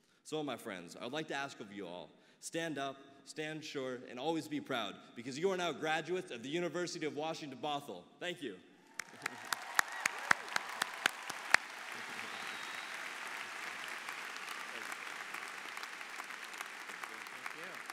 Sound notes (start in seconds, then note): 9.3 applause